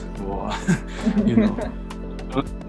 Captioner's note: laugh